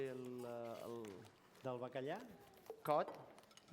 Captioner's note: non-english